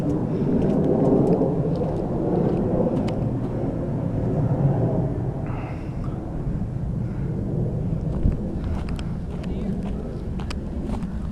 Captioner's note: footsteps